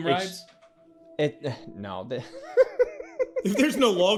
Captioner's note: laughing